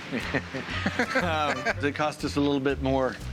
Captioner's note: laughs